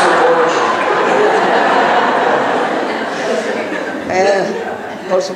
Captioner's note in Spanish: laughing